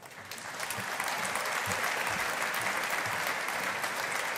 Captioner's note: audience applauding